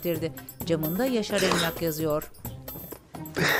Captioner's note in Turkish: Nefes sesi